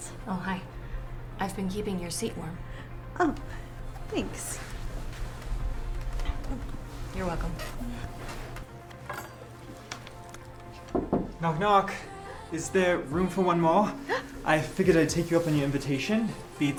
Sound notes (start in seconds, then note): 14.0 Hilda gasps